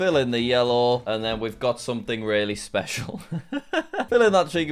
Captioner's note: laughs